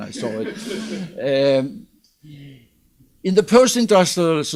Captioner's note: audience laughs